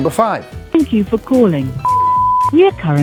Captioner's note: beep